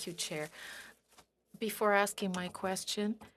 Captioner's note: speaking French